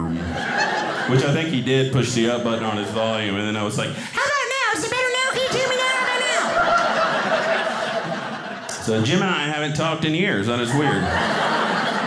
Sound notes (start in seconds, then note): 7.6 audience laughing